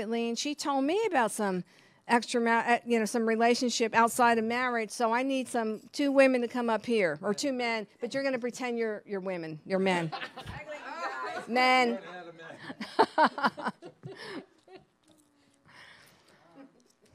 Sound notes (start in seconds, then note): 11.1 audience laughing; 12.6 laughing